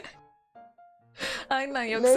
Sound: chuckling

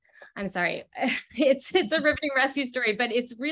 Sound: laughs

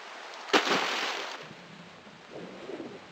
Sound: splash

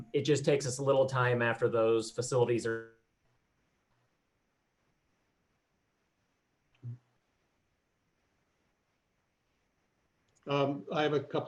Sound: audio cuts out

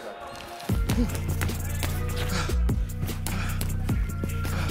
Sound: grunts and breaths heavy

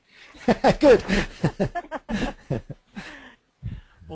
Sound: laughing

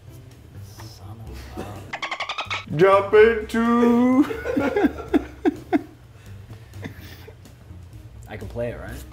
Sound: laugh

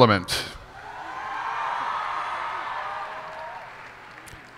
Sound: cheers and applause

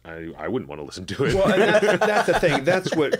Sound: laughter

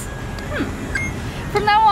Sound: beep

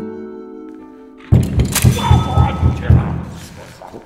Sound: loud door knocking

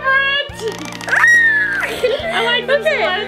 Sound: screams

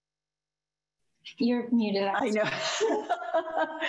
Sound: laughing

